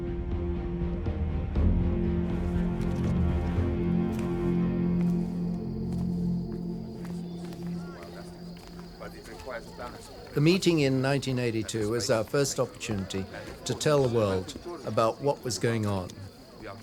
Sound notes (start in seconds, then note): 4.9 insects chirping; 7.8 people chattering